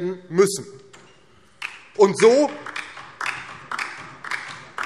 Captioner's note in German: Beifall DIE LINKE